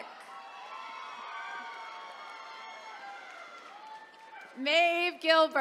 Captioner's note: attendees cheering